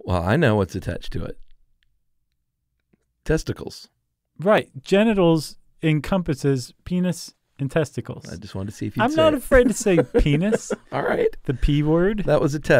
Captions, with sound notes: - Well I know what's attached to it. Testicles. - Right, genitals encompasses penis and testicles. - I just wanted to see if you'd say it. - I'm not afraid to say penis. (laughs) - All right. - The P word.